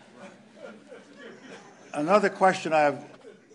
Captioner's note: laughter